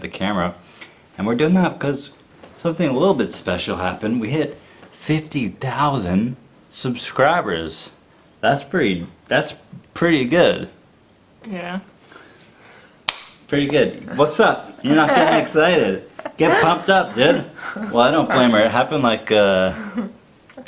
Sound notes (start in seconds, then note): 14.0 laughs